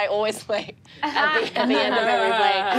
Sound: laughs

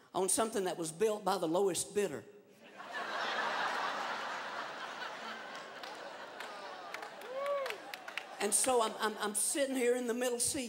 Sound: laughter

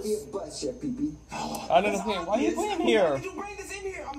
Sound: sighs

